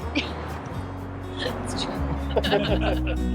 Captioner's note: laughing; soft music